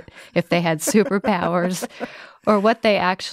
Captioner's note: laughing